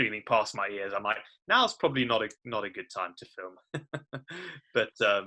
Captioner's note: laugh